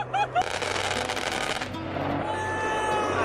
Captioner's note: gunfire rattles